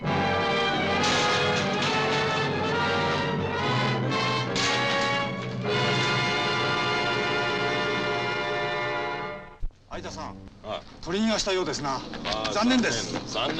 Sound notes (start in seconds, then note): 0.9 whacking; 9.4 speaking in foreign language